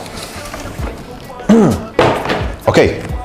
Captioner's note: clears throat